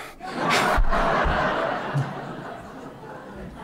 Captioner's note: laughter